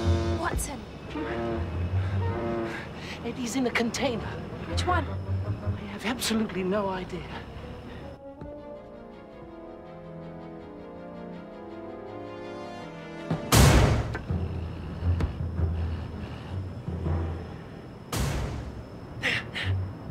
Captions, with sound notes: Watson. Eddie's in a container. Which one? I have absolutely no idea. [BANGING] There! There!